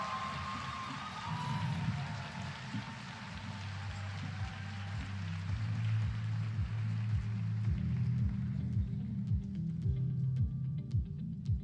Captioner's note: applause